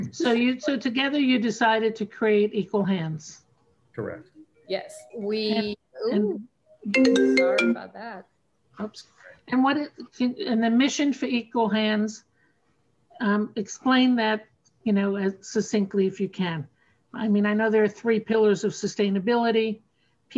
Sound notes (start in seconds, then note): 6.8 phone rings